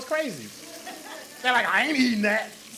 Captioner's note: audience laughs